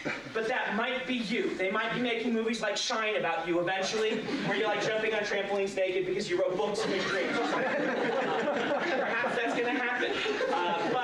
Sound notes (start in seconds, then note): 6.8 laughter